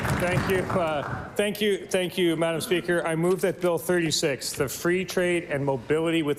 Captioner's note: applause